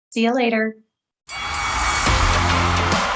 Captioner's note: audience cheering; upbeat music; bell dings